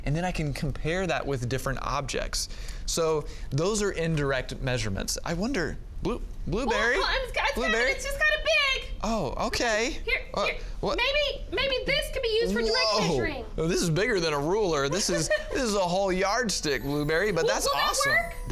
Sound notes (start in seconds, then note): 14.9 laughs